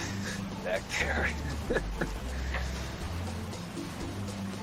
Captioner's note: chuckles